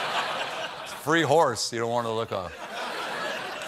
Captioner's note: laughter